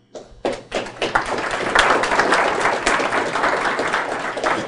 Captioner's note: applause